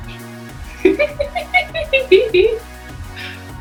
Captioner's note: laughs